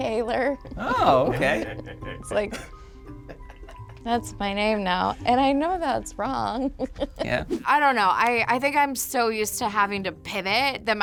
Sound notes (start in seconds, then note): 0.7 laughs; 6.7 laughs